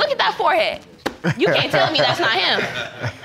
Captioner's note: laughs